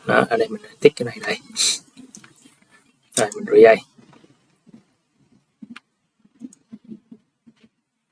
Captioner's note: sniff